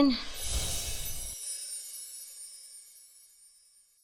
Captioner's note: gentle chiming